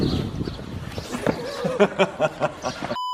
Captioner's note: laughs